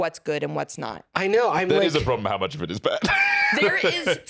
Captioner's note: laughs